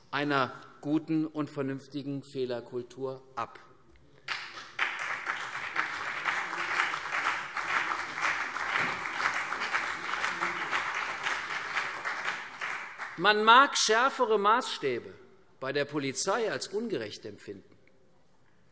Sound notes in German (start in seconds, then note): 4.3 Beifall CDU und BÜNDNIS 90/DIE GRÜNEN